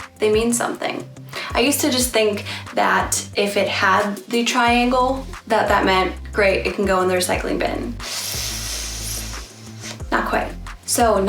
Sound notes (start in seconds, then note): 8.0 inhales through teeth